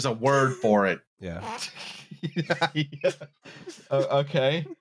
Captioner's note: laughs